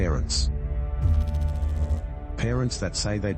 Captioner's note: electrical noise